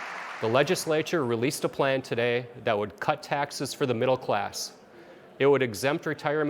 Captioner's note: applause